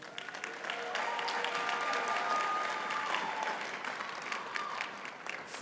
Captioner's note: audience cheers and applauds